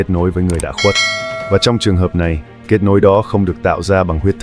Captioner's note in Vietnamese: chuông